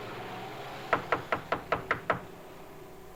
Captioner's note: knocking on door